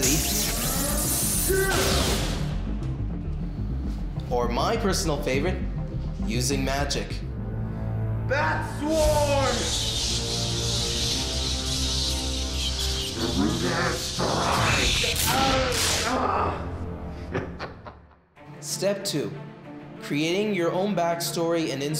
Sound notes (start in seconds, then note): 0.0 zapping sound; 8.9 squealing